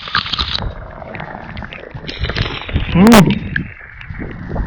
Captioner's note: drinking sound